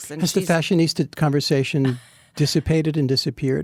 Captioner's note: Anna laughs